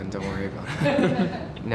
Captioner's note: laughter